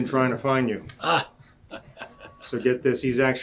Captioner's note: chuckling